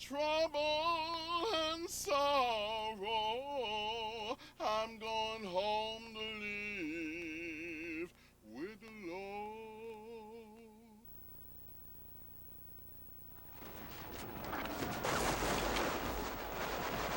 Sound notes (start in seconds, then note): 13.5 gunshots firing